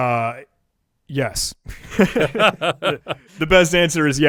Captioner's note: both laughing